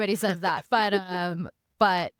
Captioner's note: laughing